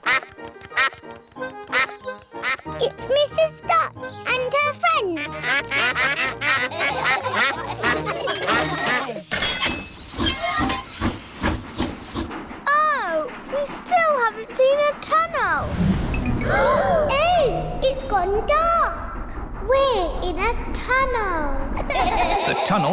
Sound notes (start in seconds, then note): 0.2 quacks; 5.0 all quack; 5.4 laughter; 10.4 train chugs; 16.4 all gasp; 21.8 all laugh